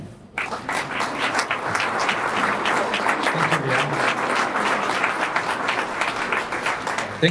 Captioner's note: applause